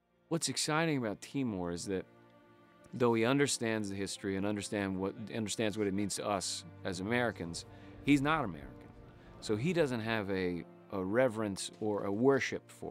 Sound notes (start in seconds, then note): none